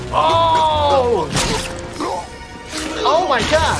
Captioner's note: Lumpy gagging